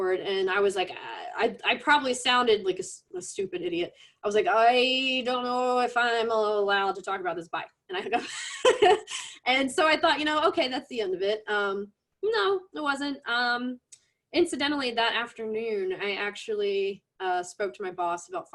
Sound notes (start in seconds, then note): 8.2 laughs